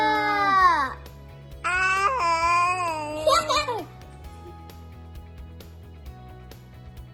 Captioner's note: baby babbling; child laughs; relaxed upbeat music